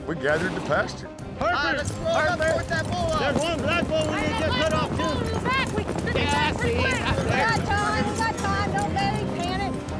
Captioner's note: overlapping yells